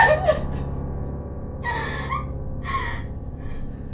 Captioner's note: Ira cries